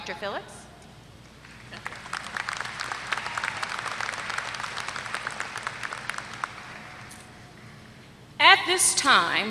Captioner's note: applause